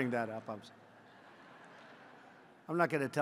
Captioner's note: laughter